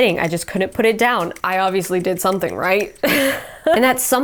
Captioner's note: chuckles